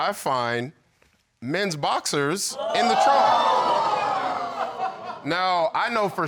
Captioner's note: audience exclaiming